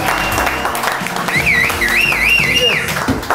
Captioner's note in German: Pfiffe